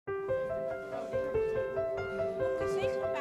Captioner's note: chattering